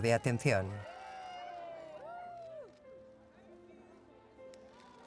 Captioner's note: people cheering